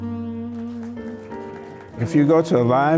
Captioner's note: audience clapping